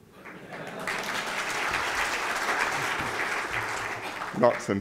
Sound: laughter and applause

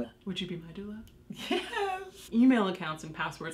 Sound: both laughing

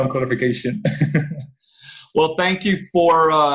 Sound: laughs

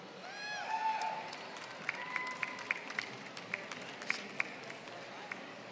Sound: applause

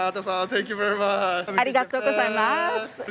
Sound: thank you in Japanese

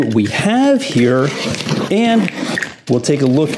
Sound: packaging tape parting

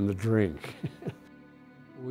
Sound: laughs

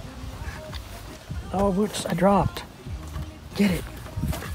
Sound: sarcastically

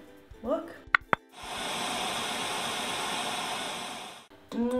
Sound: machine whirring

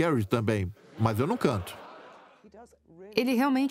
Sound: audience laughs

